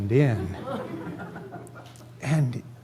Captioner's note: laughter